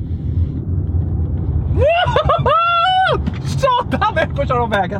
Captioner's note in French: cri d’émotion